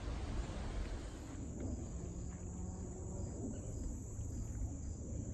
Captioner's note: insect singing intensifies